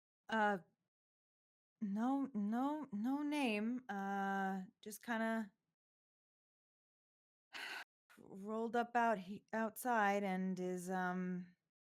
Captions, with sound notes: - "Uh, no, no, no name. Ah, just kinda (sighs) rolled up outside and is, um,